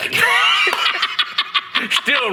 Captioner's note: laughing